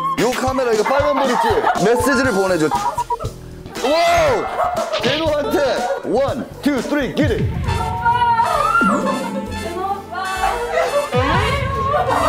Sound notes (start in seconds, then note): 8.1 crying